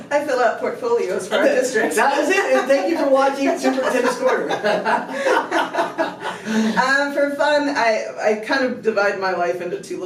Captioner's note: laughter